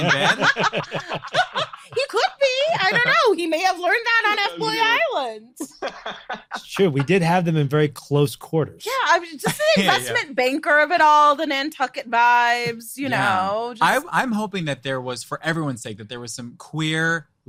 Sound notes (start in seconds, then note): 5.6 group laughing; 13.0 laughing